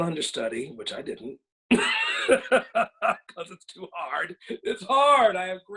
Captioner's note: laughs